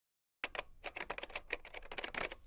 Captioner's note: keyboard clacking